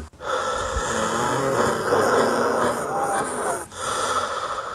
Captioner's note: rattling breath